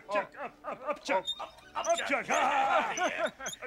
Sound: laughs; Muppets laughing

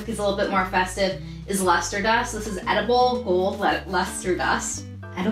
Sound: none

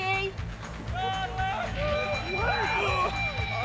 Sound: screams

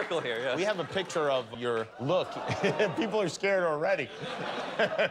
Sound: laughter

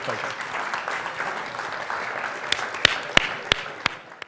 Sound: applause

